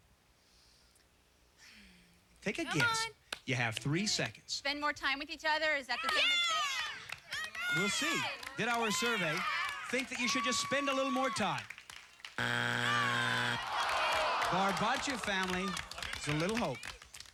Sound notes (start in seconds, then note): 0.7 sighs; 12.4 buzzer